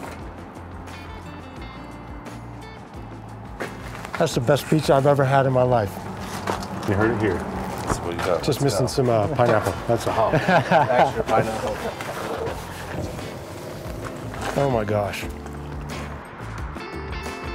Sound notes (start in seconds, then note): 10.1 laughter